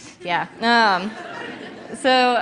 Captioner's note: laughter